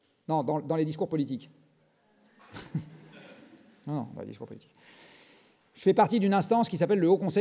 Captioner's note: laughs